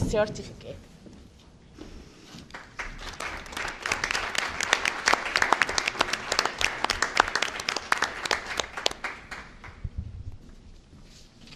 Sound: applause

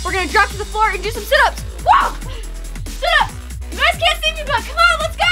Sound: screams

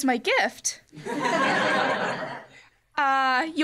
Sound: laughter

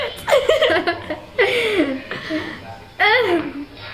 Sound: laughing

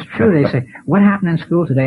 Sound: laughs

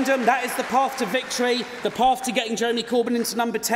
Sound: cheering & Applause

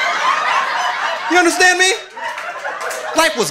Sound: audience laughing

